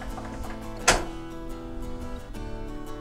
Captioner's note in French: bruit porte